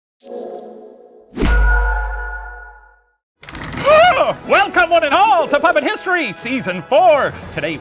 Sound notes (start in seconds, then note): 0.3 electronic whirring; 3.6 gasps